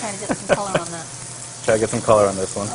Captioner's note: sizzling